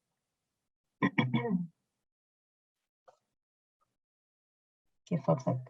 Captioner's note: clears throat